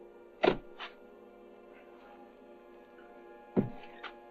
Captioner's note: shovels thudding